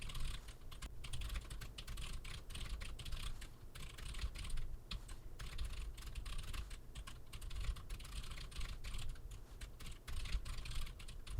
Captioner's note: typing sounds